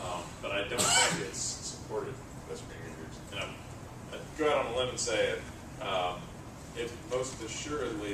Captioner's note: cough